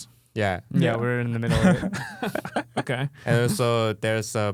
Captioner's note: laughing